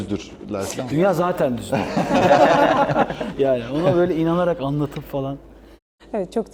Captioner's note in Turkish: kahkaha